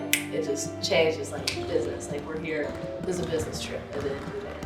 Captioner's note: claps